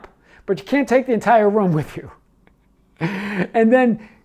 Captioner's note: laughs